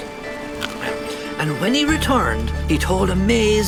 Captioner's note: chewing